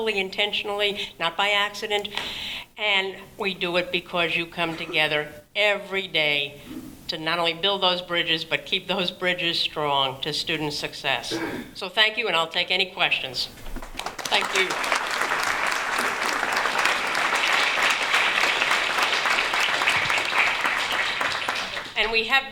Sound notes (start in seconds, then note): 15.9 applause